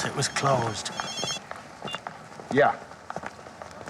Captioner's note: phone rings